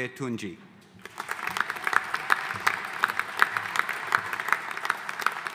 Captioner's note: audience applauding